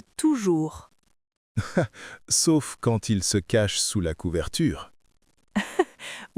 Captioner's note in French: rire; rire